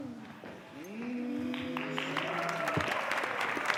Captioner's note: cheering